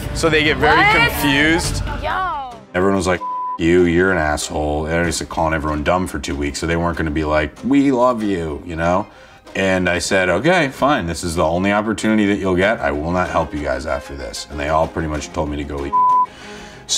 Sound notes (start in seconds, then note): 3.1 beep; 15.9 beeps